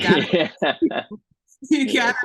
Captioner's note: laughing